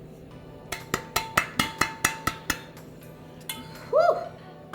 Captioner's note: pan clanking